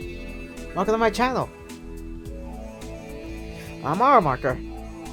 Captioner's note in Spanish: respira hondo